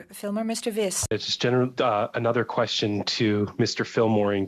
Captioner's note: speaking French